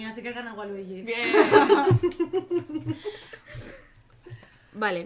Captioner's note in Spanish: risas